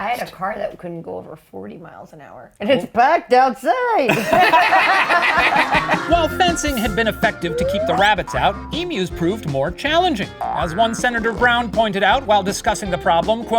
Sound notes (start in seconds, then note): 4.0 all laughing